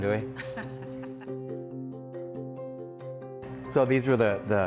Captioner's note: woman laughs